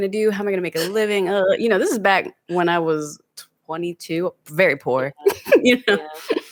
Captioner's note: laughs